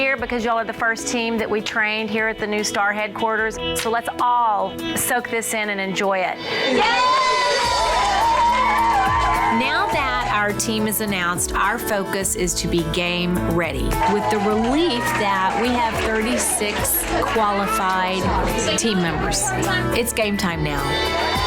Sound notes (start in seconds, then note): 6.5 women cheering; 6.5 upbeat music; 21.2 upbeat music; 21.2 women cheering